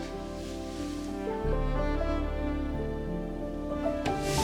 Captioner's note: both were surprised by the rustling sound